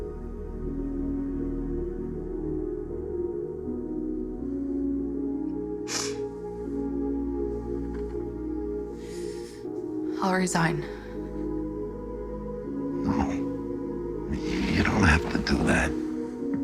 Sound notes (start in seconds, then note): 5.9 sniffles; 8.9 inhales deeply